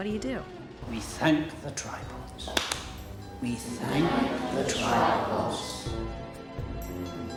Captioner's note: claps hands